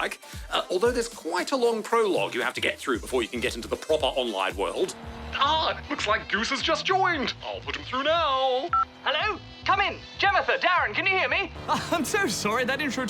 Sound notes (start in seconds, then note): 8.7 beep!; 11.6 chuckles